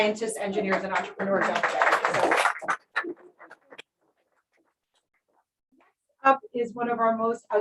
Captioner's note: applause